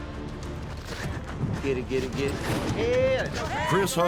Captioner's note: footsteps